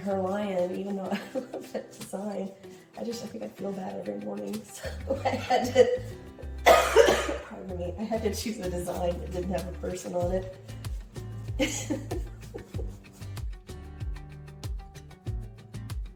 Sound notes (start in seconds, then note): 6.6 cough; 13.7 laughing